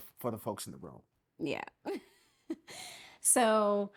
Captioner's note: laughing